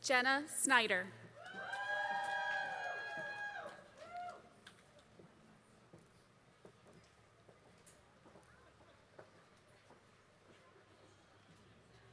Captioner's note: applause